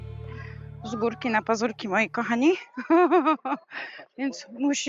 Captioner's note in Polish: śmiech